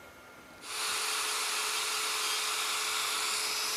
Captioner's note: machine whirring